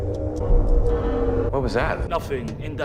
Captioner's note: groaning sound